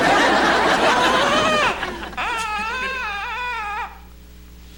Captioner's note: baby cries